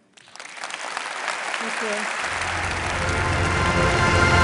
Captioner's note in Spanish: Aplausos